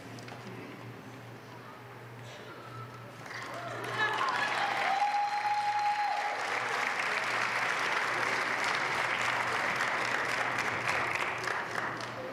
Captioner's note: applause